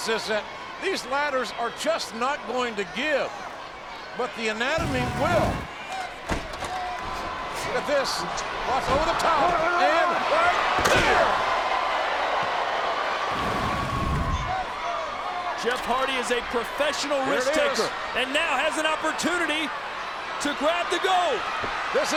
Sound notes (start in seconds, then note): 13.2 audience groans